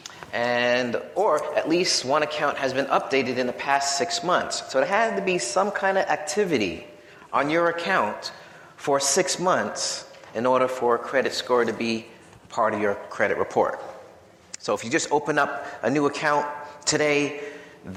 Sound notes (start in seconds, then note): none